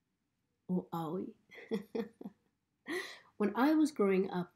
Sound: chuckles

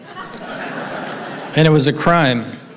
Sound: audience laughing

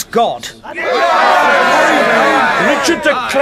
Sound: shouts of agreement

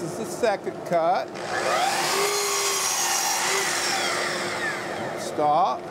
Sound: miter saw whirring

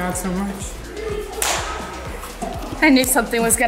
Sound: claps

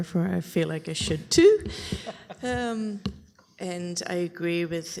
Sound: laughter

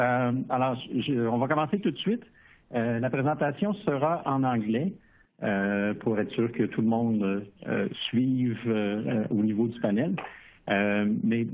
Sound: speaking french

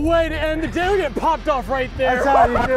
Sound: laughs

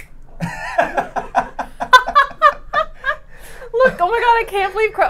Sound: all laughing

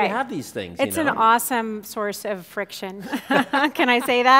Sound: laughing

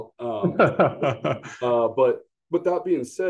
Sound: laughs

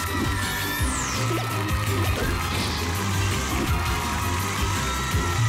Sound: audience applauding; electronic sounds; audience applauding

